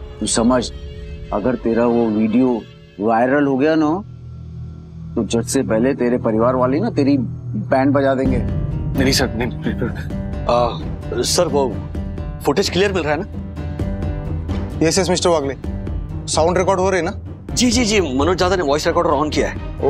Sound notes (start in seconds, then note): 9.4 fumbling